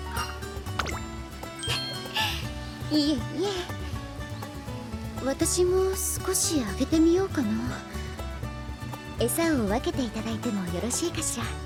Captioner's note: laughs